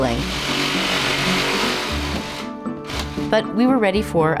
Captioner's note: drill whirring